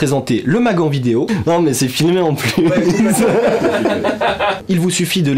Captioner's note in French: Rire effrayant